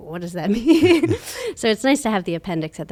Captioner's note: laughs